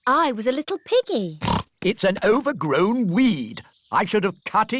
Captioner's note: snorts